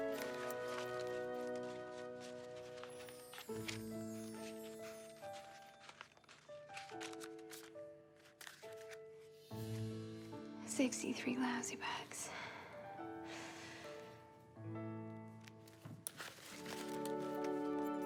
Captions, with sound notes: [pensive music continues] [money rustling] 63 lousy bucks. [sighs]